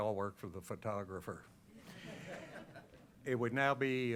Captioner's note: laughter